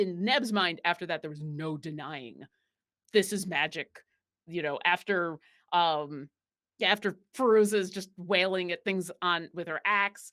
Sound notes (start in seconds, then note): none